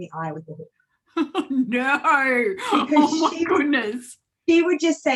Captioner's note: laughs